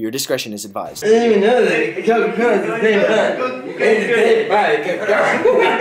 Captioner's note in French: mal articuler